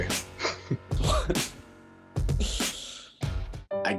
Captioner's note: laughs